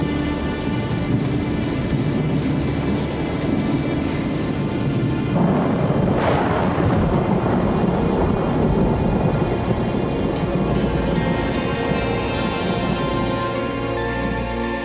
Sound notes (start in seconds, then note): 5.5 thunder; 11.7 ominous music